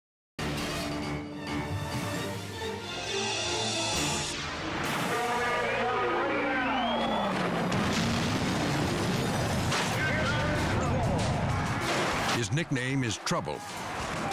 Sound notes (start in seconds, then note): 0.2 dramatic music; 3.0 screen whooshing; 7.2 car exploding